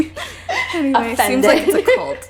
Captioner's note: gasp